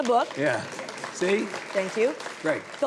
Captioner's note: audience applauding